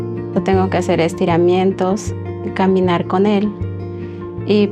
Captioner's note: spanish